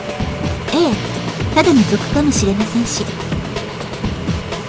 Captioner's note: rain